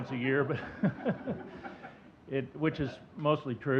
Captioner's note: audience chuckling